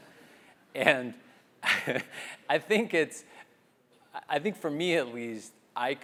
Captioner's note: laugh